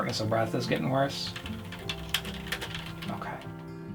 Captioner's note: typing on keyboard